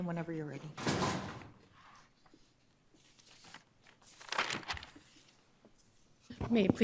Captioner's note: door slamming; papers rustling